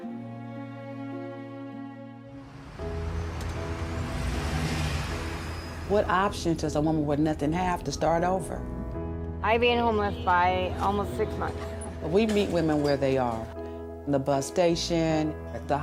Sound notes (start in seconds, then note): 0.1 dramatic music; 2.4 engine revving